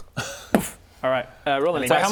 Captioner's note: boof